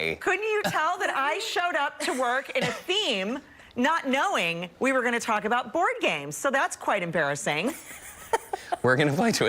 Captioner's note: laughter